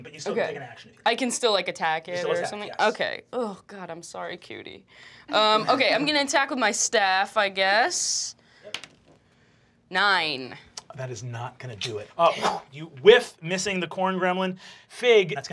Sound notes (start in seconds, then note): 8.7 dice clacking